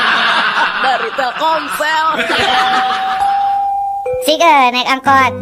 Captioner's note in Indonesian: tertawa